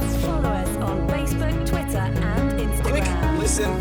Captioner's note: voiceover